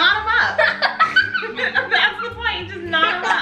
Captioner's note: everyone laughs